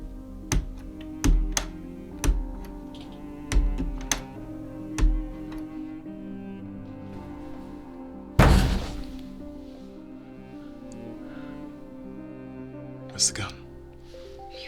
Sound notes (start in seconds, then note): 8.4 kick against door